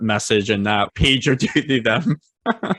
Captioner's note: laughing